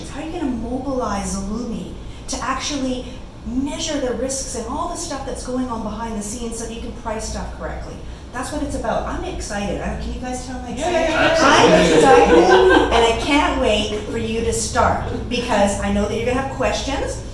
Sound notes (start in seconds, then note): 10.8 laughter